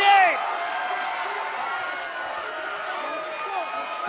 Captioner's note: cheers & applause